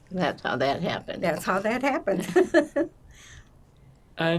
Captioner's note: laughing